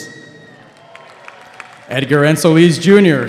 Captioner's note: audience applauding